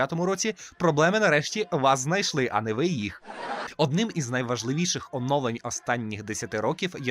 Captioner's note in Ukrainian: сміх